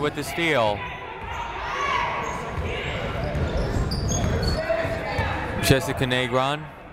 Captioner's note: people shouting in the crowd